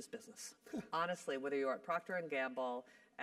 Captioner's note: laugh